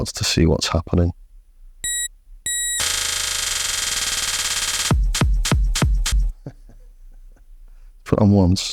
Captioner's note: laughs